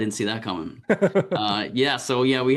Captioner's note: laughs